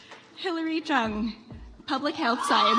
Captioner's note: audience applauds